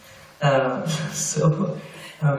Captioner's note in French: rires